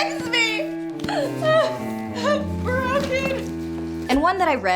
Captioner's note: sobs; cries